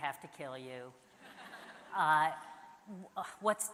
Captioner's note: audience laughs